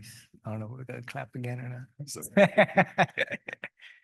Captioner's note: laughs